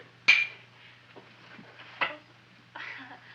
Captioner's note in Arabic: صوت ارتطام النظارات